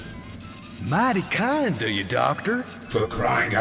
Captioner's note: in a Deep South accent